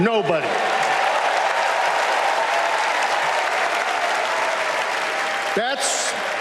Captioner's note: applause